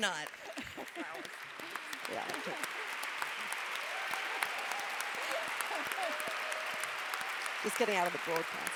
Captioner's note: applause